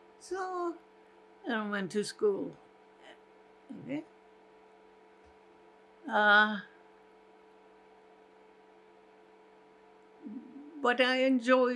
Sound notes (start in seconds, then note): 4.2 pauses 6 seconds